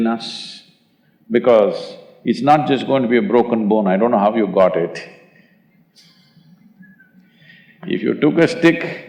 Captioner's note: laughs